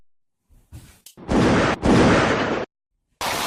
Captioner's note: gunshots